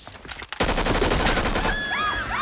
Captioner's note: gun firing; screaming